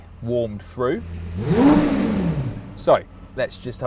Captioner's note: engine revs